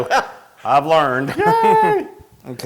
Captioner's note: laugh